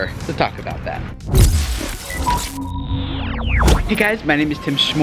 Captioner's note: rumbling and beeping